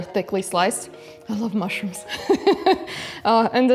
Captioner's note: laughs